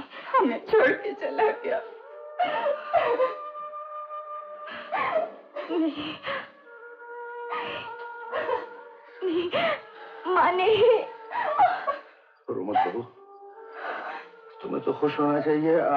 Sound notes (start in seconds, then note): 2.4 crying